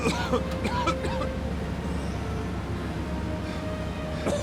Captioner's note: coughing